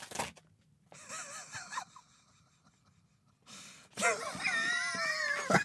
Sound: chuckles

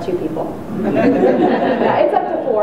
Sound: audience chuckles

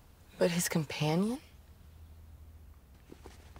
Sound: none

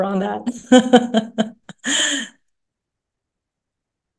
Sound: laughs

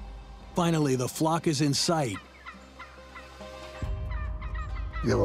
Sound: turkey gobbles

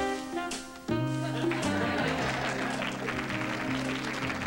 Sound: laughter; applause

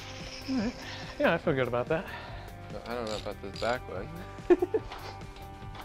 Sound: laughs

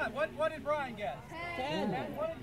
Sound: crowd

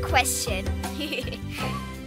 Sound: giggling

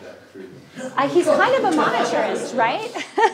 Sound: audience laughing

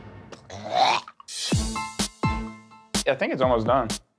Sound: imitating vomiting

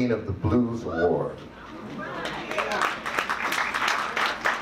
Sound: audience claps

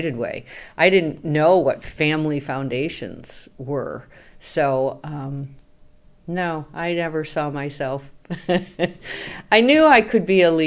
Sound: laughs

